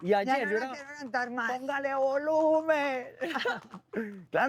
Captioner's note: laughter